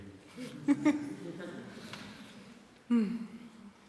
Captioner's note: laughter